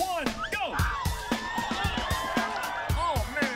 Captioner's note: cheers and applause